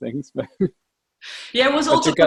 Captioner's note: laughs